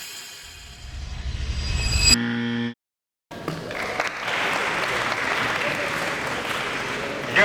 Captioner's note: applause